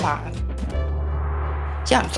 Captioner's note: magic sound